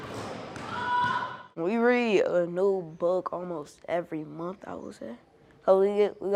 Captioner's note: ball thumping; boy screaming